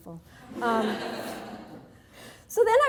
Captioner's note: audience laughing